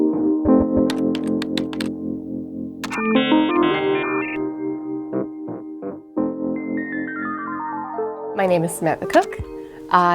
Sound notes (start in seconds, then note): 0.8 typing; 2.8 modem buzzing